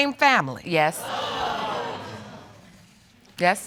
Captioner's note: audience exclaiming